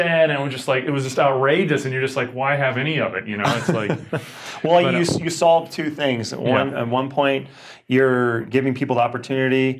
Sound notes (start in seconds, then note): 3.4 laughing